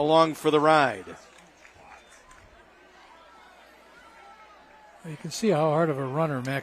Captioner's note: applause